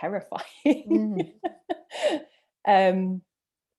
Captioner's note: laughs